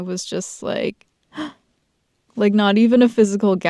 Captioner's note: small gasp